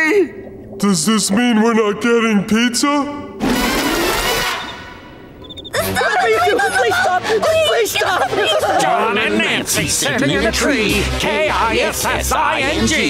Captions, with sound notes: Does this mean we're not getting pizza? [whimpering] Tom and Nancy sittin' in a tree, K-I-S-S-I-N-G!